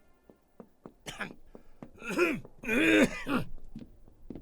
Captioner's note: teachers clears throat